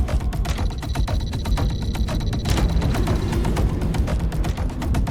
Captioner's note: interface chiming